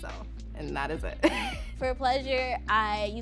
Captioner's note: laughing